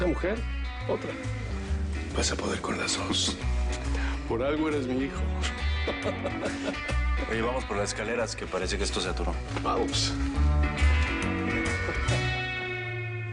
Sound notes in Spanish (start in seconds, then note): 5.3 Ríe